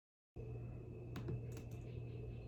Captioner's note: keyboard clicks softly